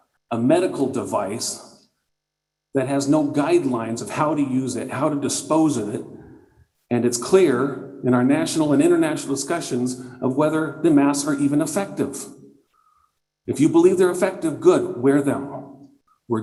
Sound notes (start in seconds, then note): none